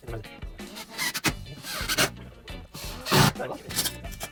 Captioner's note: hammer pounding; drill revving